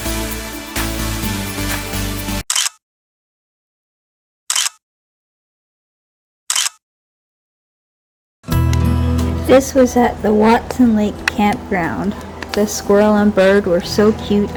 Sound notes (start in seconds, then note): 2.5 photo Click; 4.5 photo Click; 6.5 photo Click